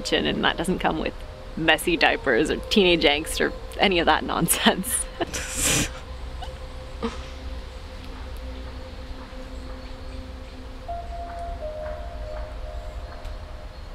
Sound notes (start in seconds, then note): 5.0 both laughing